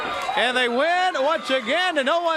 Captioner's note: crowd cheering